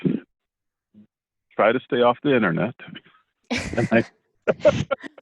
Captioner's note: laughs